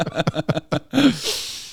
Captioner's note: laughing